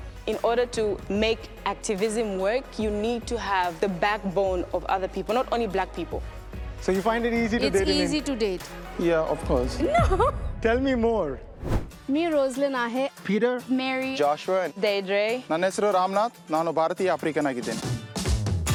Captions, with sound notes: In order to make activism work, you need to have the backbone of other people, not only Black people. - So you find it easy to date-- - It's easy to date? Yeah, of course. - No! - Tell me more. ( speaking Hindi ) My name is Rosalyn. - Peter. - Mary. - Joshua. - Deidre. ( speaking Hindi ) My name is Ramnath, and I'm Black in India.